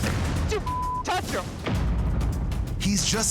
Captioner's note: beep